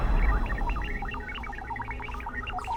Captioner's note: beeping